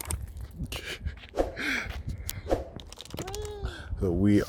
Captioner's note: chuckles